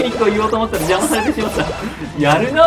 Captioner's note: laughs